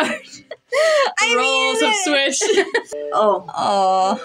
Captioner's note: laugh